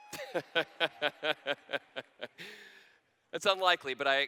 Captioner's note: laughter